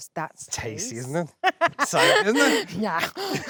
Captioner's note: both laughing; Jessie laughing